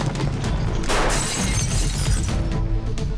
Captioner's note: hoofbeats; glass shatters in saloon